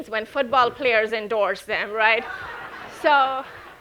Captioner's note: audience laughing